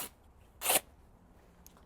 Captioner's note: tearing